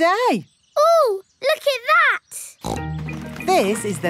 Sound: snorts

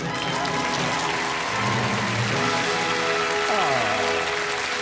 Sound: audience applause

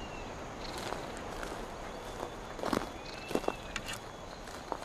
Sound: footsteps crunching

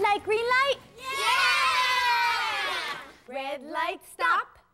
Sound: kids cheering

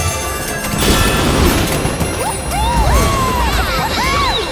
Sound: cheering

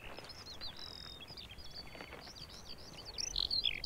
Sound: birds twitter

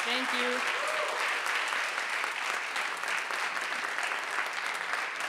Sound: audience applauding

